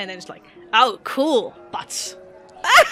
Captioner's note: laughter